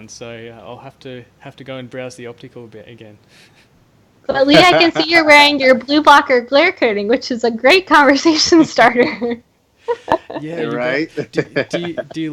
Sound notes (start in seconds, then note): 9.8 laughs